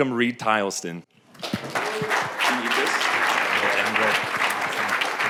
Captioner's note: applause